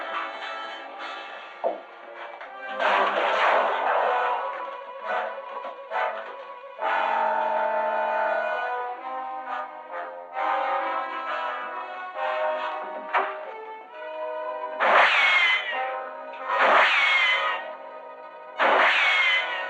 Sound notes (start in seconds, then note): 14.8 gunshots; 18.6 gunshot